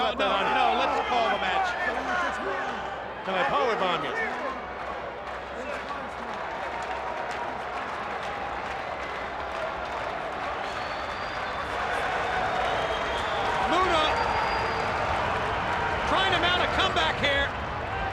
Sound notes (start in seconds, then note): 5.8 audience cheering